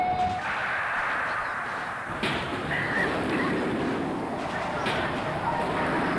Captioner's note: gunfire